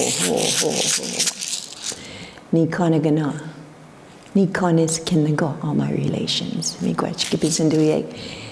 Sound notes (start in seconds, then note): 3.0 foreign speaking